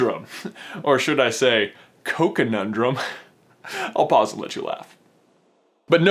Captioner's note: silent chuckling